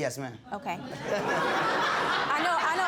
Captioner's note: audience laughing